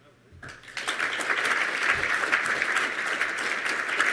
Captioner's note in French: Applaudissements